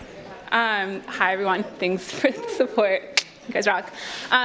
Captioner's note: clicks tongue